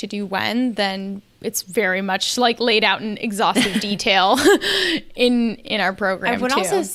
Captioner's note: laughs